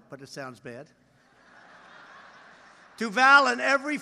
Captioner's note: laughter